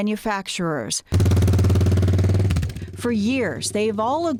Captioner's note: engine rumbling